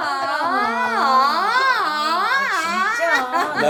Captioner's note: A siren?